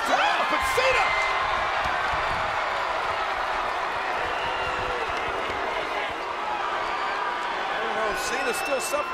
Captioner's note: applause